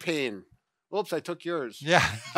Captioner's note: laughs